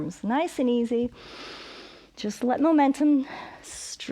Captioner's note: inhales; exhales